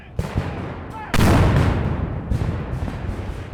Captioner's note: guns fire